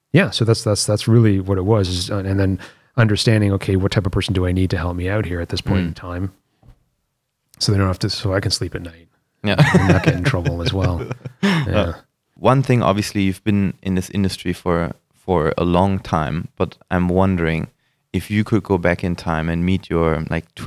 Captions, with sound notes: - Yeah so that's really what it was, and then understanding okay, what type of person do I need to help me out here at this point in time so I can sleep at night - Yeah (laughter) - And not get in trouble as well, yeah. - One thing, obviously you've been in this industry for a long time but I'm wondering, if you could go back in time and meet your like